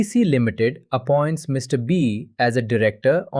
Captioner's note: thoughtful